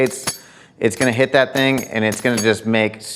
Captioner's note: bait clanking